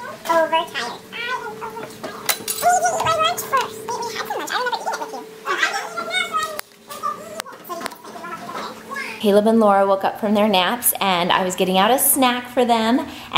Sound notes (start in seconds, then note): 2.6 chattering in fast speed